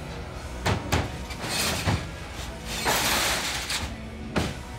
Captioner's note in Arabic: قعقعة الأطباق